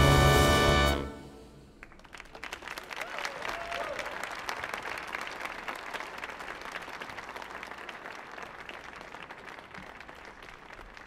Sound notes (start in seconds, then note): 2.6 audience applauding